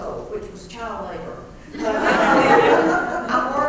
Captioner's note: laugh